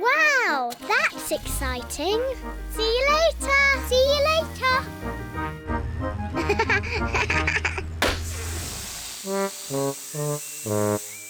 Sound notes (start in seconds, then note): 6.4 laughs; 8.0 tire pops, hisses